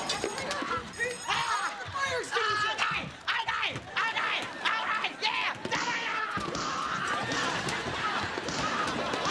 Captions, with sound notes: Hang on, Coach Kreeton! I'll get the fire extinguisher! OK, OK, alright, yeah! [screaming]